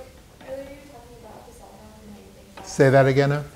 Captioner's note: muttering question